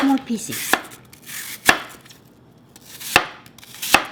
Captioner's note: chopping